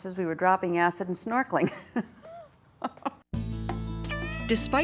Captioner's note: laughs